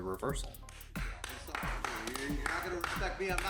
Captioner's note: clapping